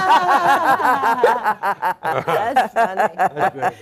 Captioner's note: all laughing